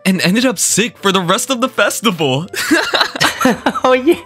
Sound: laughs

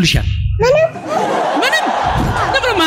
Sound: laughter

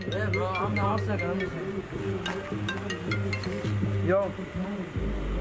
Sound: Aaron's phone ringing

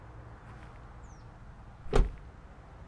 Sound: car door shutting

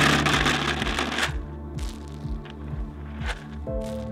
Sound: seeds patter

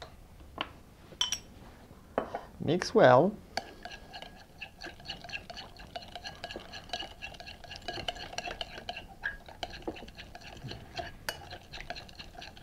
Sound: mixing sounds

